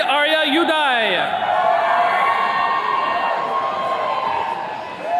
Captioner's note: attendees cheering